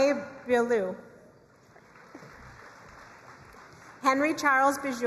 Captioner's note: crowd cheering and applauding